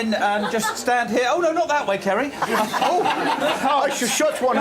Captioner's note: laughing